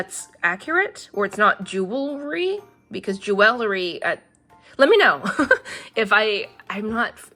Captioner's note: laughs